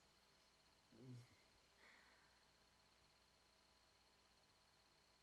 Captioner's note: insects chirping